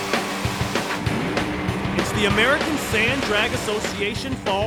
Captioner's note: crowd cheering